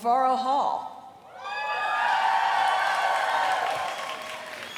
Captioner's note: cheering and applause